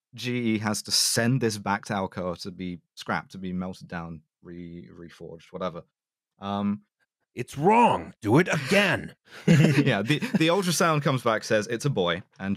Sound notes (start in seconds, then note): 7.7 angry voice; 9.3 laughter